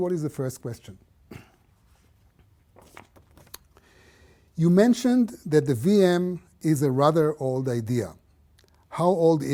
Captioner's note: cough